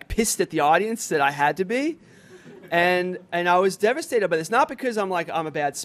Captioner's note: laughter